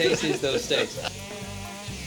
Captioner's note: laughter